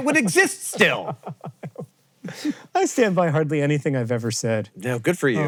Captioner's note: laughs